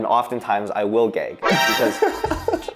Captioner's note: dramatic horn blowing; laughing